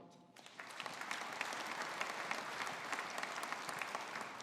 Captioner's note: audience applauding